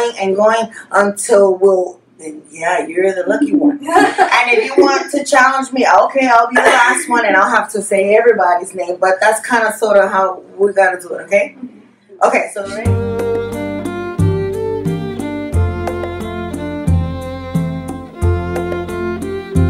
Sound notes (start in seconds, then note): 3.4 giggles; 12.6 gentle music